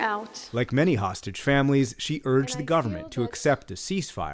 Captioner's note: voice-over